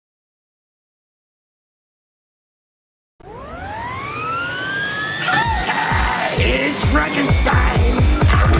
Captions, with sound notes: [screaming] Hey, it's Frankenstein!